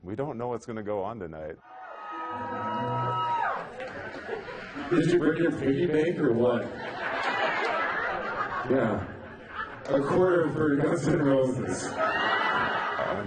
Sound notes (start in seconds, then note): 1.6 cheering; 6.7 laughing; 11.6 laughing